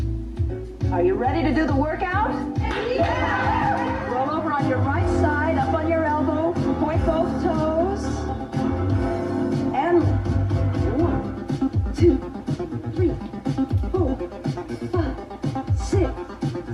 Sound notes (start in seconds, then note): 2.6 people cheering